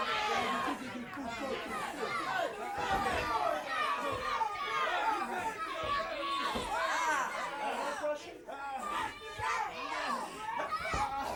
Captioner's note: crowd cheers